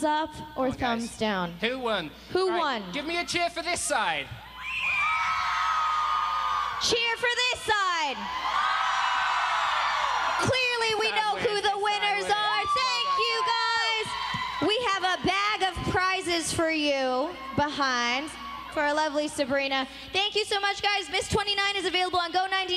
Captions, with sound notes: >> WOULD YOU GIVE THESE HEADACHES THUMBS DOWN OR THUMBS DOWN? >> CHEER FOR THIS SIDE. >> CHEER FOR THIS SIDE. [APPLAUSE] >> CLEARLY WE KNOW WHO THE WINNERS ARE. THANK YOU, GUYS. WE HAVE A BAG OF PRIZES FOR YOU FOR A LOVELY SABRINA.